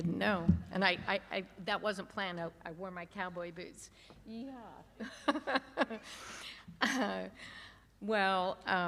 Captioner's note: laughter